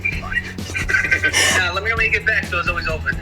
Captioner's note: both laughing